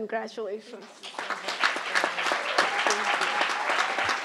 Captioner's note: crowd applauding